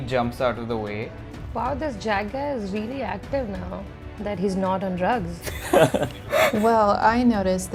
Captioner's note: laughter